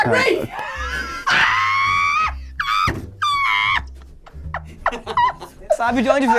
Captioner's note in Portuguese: risadas